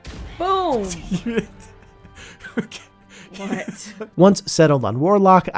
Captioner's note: laughing